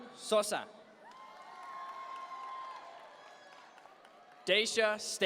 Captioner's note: audience members cheer